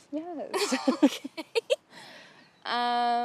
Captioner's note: laughs